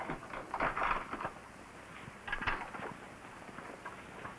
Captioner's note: door locks